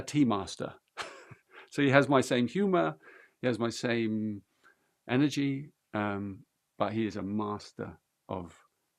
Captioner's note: laughs